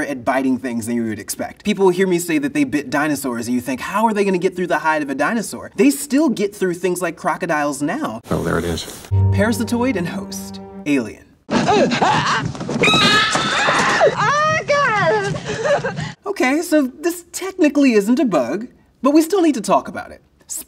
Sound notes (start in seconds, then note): 11.7 victim crying out; 12.8 bystander shrieking